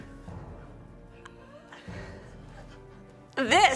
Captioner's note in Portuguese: snickers Finebros